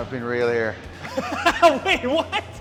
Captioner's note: Ethan laughing